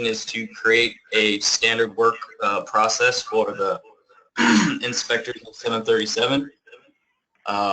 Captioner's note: cough